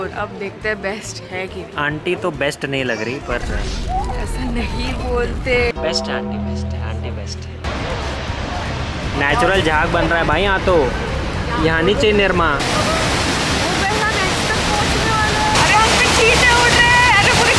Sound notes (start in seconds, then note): 7.6 water falls